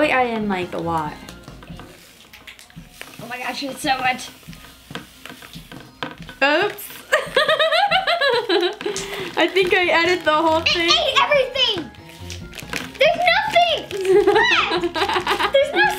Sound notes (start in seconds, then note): 7.1 laughs; 14.0 laughs